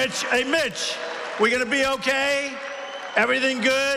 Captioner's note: applause